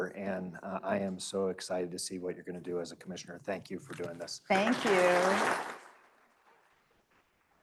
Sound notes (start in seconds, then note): 4.5 applause